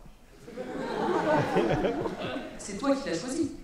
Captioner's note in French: rires